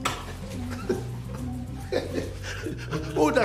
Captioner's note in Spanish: Risas